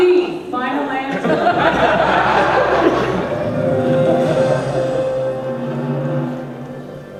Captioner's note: audience laughter